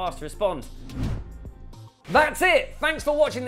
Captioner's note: logo whooshes; screen whooshes